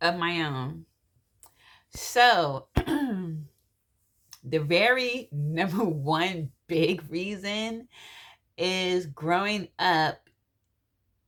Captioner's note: clears throat